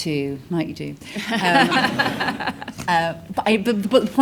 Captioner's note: audience laughs